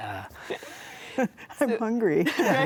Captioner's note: laughs